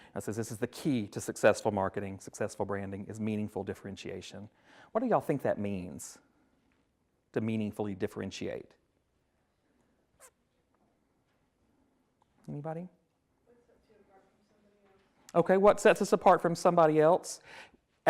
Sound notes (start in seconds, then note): 13.4 woman speaks off mic